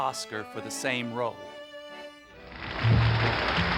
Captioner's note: applause